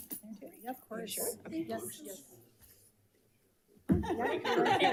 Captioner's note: group chattering